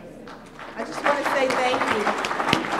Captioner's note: applause